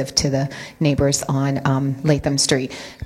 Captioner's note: none